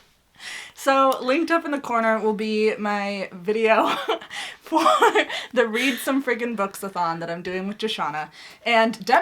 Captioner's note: laughs